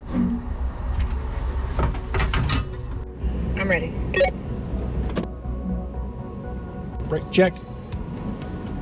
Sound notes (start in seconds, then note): 0.3 machine whirring; 4.6 gentle music